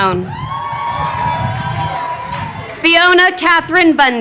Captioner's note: crowd cheering